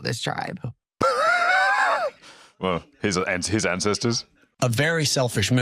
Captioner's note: laughs